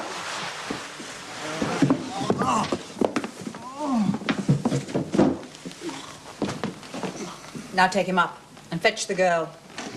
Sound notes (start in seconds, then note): 2.0 groans